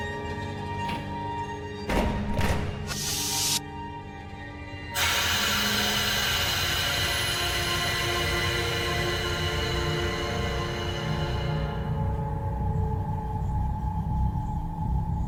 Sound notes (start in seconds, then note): 2.9 device whooshing; 11.6 eerie atmospheric music